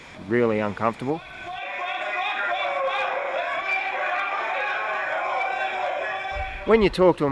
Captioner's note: urgent yelling